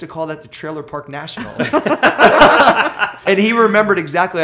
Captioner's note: laughter